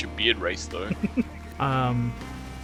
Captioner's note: laughs